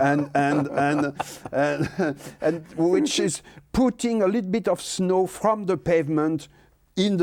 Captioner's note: laughs